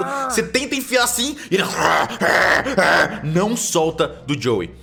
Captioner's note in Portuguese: Grr, grr, grr